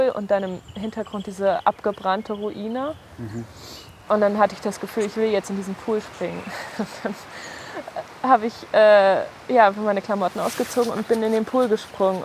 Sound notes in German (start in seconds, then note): 7.8 lachend